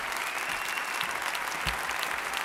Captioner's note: applause